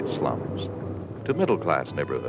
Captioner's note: street traffic